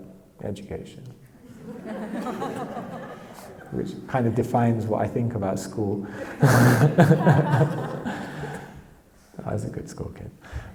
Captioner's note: audience laughs